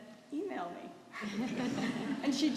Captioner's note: laughter